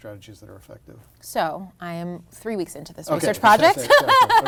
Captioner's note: laughs